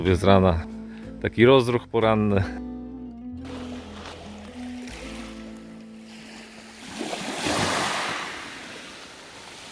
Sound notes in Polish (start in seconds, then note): 3.4 Szum fal